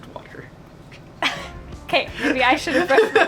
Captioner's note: laughs quickly